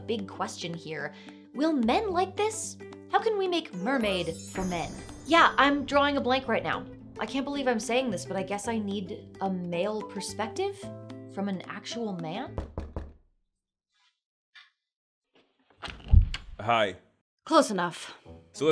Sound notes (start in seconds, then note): 12.6 knocking sound